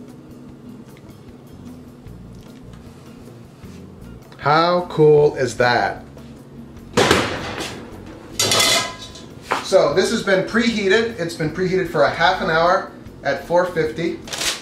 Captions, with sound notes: How cool is that? (oven door slams) (metal clanking) So this has been preheated. It's been preheated for a half an hour at 450.